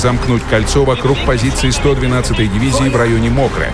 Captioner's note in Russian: Говорят по-немецки